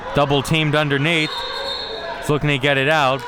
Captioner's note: whistle being blown